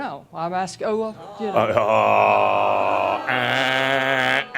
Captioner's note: audience says “Ohhhh!”